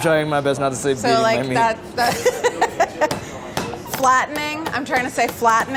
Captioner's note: laughs